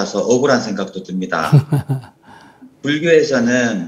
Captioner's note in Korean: 스님 웃음